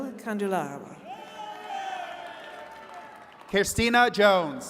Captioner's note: attendees cheering